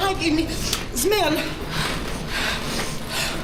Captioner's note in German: Schwer atmend